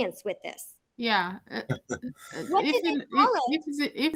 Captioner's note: chuckles